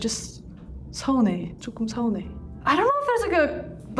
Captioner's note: speaking Korean